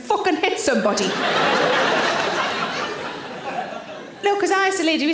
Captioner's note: audience laughing